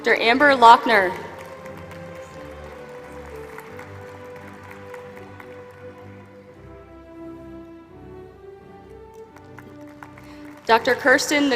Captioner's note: applause